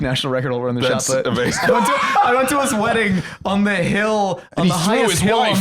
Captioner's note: laughs